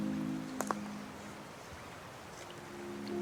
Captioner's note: the quiet splash of water